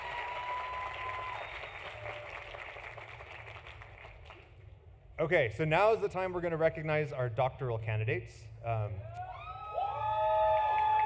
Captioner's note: applause